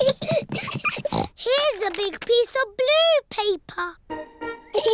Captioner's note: snorts; both giggling